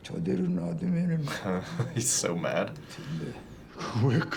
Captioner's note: chuckles